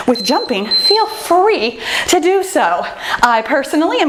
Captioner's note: timer beeps